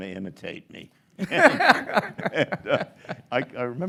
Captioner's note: both laugh